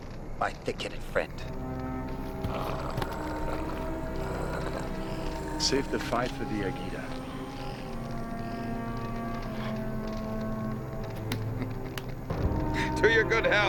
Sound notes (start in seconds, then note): 2.1 somber orchestral music; 3.6 growling